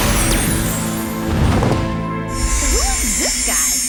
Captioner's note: explosion